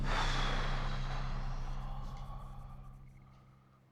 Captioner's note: exhales sharply